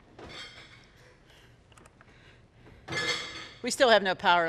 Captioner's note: dishes clinking